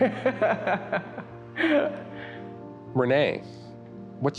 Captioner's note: laughs